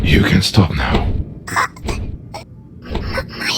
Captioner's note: Yúlia surprised gasp and stuttering